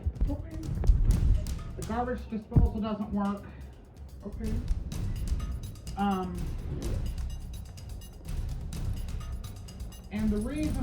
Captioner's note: altered/distorted